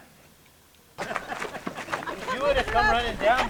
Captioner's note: people laughing